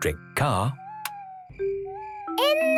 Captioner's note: car lights click off